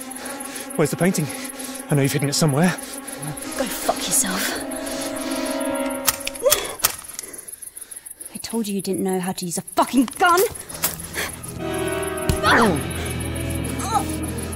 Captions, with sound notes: Where's the painting? I know you've hidden it somewhere. - Go fuck yourself. (gun clicks) I told you you didn't know how to use a fucking gun. (pained shout)